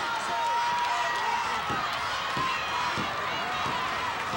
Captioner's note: hand tapping